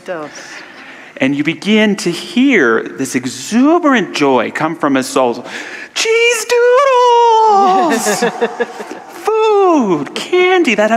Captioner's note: audience laughter